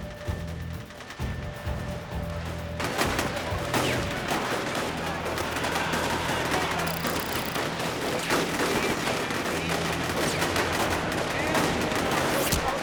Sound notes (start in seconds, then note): 0.3 suspenseful music; 3.5 gunshots firing